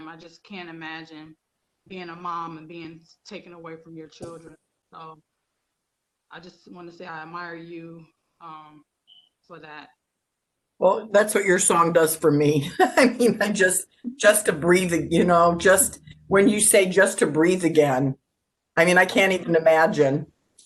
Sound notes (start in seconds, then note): 12.6 laughs